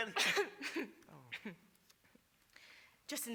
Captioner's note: BEATRIX coughs